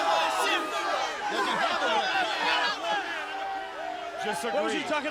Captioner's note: Tony speaking faintly